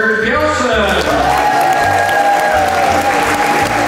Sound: crowd cheers

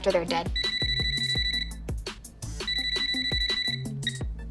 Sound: beeping

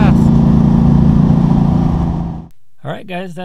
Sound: car engine roaring

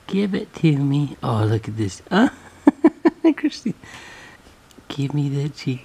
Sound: laughs

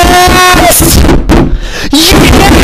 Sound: inhales

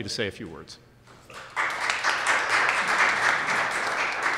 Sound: applause

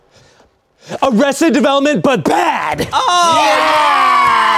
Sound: 𝘴𝘤𝘳𝘦𝘢𝘮𝘴 𝘰𝘧 𝘦𝘹𝘤𝘪𝘵𝘦𝘮𝘦𝘯𝘵

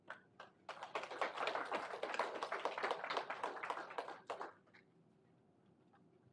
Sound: applause

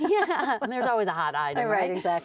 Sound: laughing

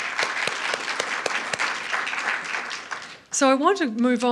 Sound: applause

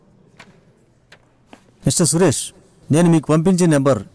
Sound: none

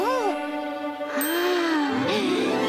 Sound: gasps

